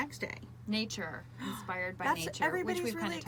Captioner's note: gasps